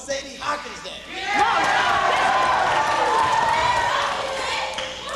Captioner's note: cheers and confusion